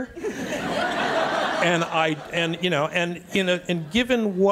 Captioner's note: audience laughs